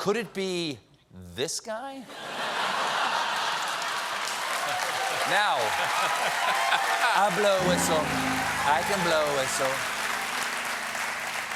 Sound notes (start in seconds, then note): 2.0 laughter; 2.9 applause